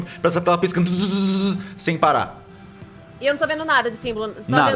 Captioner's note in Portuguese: barulho de estática